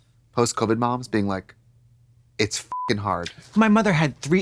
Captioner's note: beep